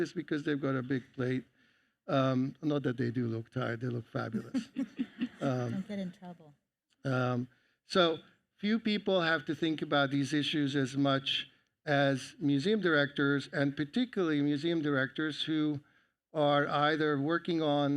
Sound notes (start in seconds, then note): 4.3 all laugh